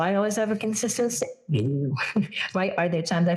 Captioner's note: laugh